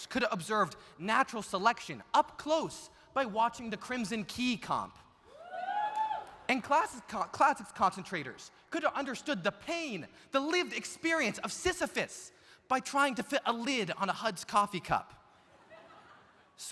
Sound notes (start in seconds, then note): 5.3 audience cheering; 5.5 audience applauding; 15.4 audience laughs